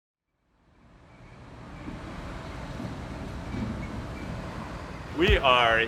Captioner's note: light sounds of traffic